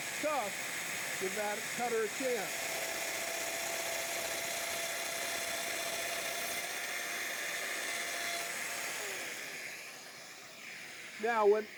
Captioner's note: domino cutter cutting